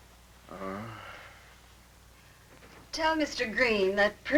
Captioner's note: groaning